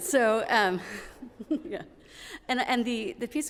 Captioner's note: giggling